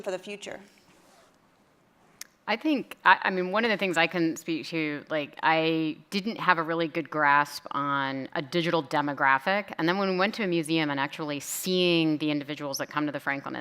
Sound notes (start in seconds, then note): none